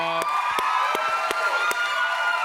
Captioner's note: cheers and applause